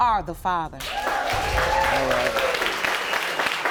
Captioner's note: audience cheering